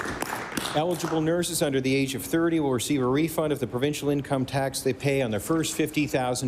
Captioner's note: applause